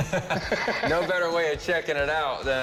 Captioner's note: laughs